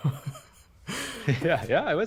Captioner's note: laughing